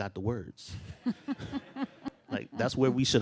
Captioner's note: laughs